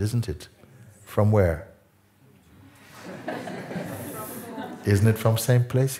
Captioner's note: Lachen